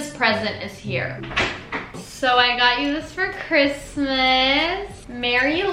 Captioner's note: door opens